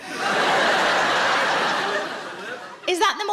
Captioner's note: audience laughs